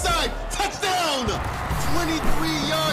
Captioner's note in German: Jubel